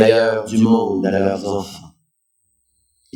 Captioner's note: french